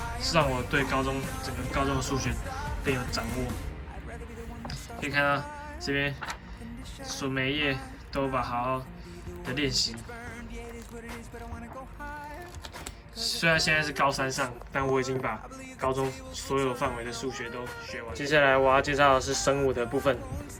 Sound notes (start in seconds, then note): 9.2 sound of flipping book